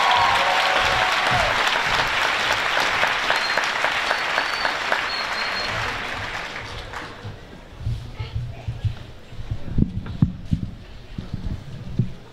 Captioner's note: applause